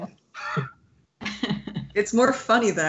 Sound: laughs

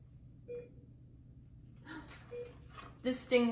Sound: beeping

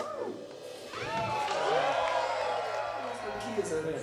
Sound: crowd cheering

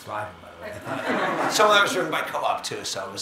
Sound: audience laughing

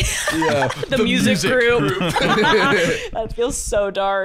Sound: laughing

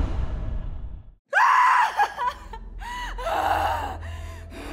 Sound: screaming

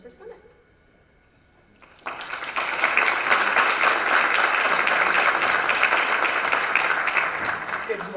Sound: applause

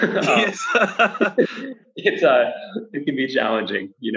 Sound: laughs

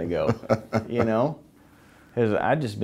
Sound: laughter

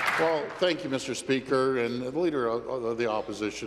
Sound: applause

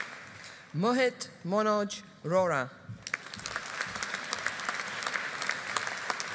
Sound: audience applauding

